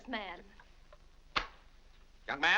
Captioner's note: wallet slaps shut